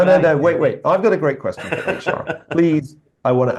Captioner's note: laugh